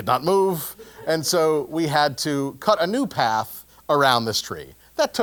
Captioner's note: laugh